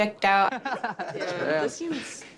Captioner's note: laughing